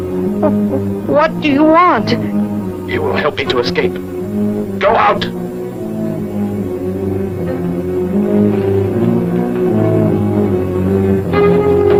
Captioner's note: stammering